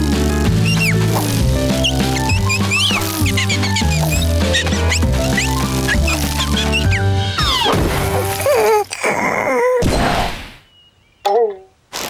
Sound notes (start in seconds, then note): 0.5 chirping; 8.2 groaning